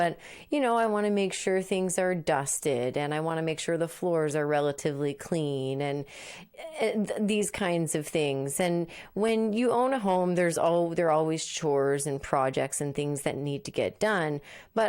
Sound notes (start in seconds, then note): none